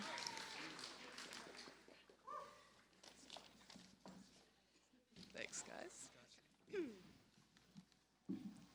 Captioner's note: cheers and applause